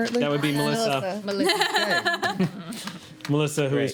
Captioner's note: laughing